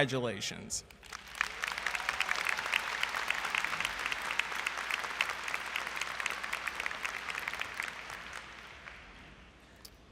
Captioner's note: applause